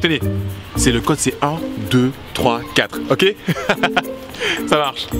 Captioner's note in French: rires